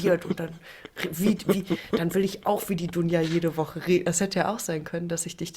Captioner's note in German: gelächter